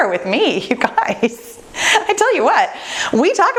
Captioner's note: laughs